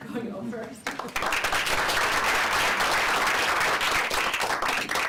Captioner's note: applause